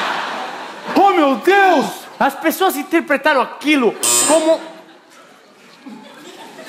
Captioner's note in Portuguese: campainha